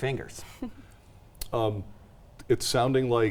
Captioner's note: chuckles